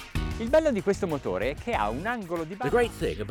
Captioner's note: speaks in foreign language